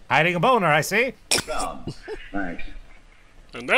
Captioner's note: snorts in laughter